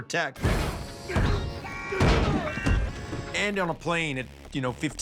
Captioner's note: man grunting